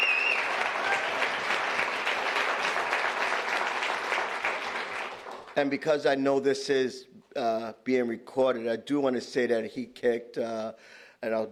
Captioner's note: applause